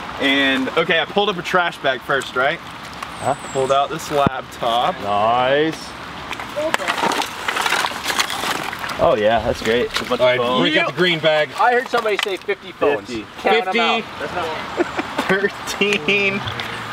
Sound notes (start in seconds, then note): 7.1 clanking; 14.6 man laughs